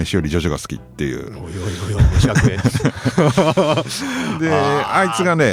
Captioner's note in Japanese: 笑い